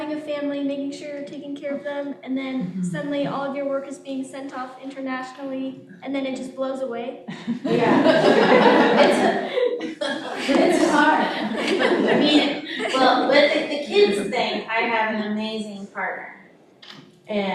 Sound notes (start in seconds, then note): 7.3 audience laughing